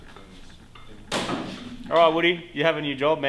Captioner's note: clattering and thud